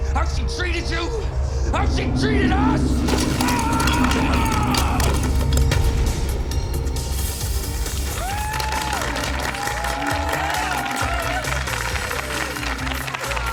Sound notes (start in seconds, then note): 3.6 screams; 6.7 blowing; 7.5 all clapping